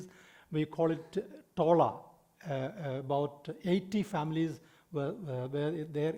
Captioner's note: speaking in foreign language